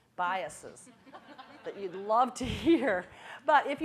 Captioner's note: audience laughing